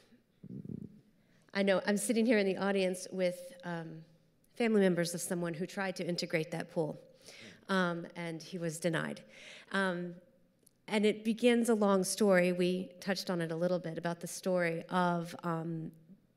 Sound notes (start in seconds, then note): none